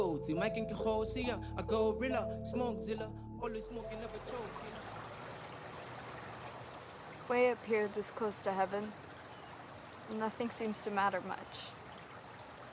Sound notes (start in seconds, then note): 3.8 music fades; 5.3 water burbles